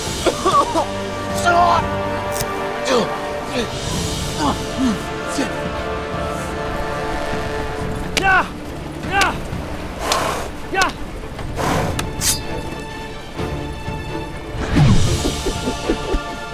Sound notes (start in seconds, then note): 0.1 coughing / grunt